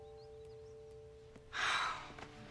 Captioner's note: sighs